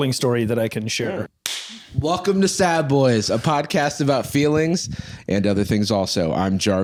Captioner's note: claps